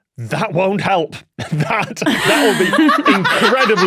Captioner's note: laugh